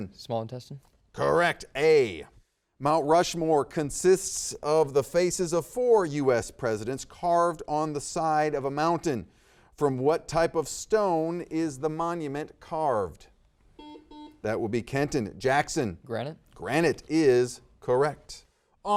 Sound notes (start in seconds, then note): 13.8 buzzer beeping